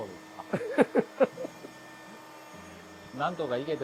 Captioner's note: laugh